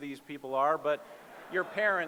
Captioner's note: laughter